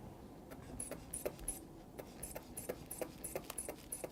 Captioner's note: air pumping